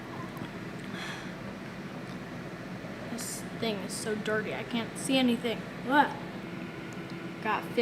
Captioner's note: exhale